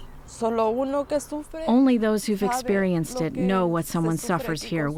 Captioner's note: through translator